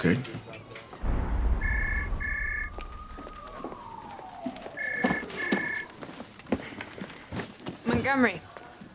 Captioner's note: phone rings